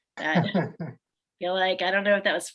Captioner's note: laughs